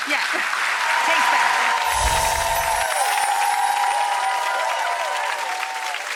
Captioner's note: applause